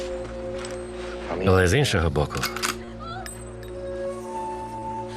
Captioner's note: gun clicks